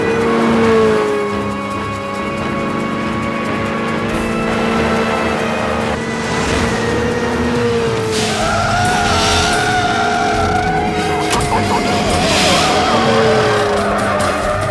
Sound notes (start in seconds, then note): 9.9 tires squealing; 13.9 dramatic music; 13.9 engine revving